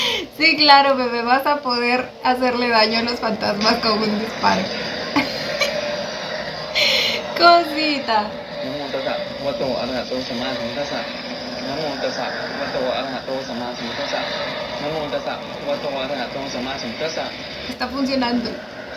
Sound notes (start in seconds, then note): 8.6 chanting